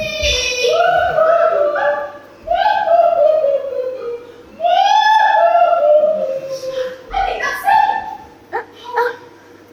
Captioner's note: offstage waling